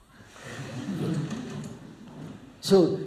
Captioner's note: laughter